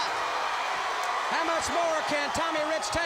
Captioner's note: crowd cheering